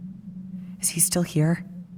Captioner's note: whispering